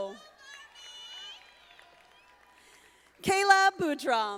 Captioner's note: audience applauding